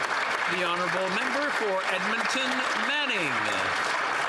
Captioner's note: some Applause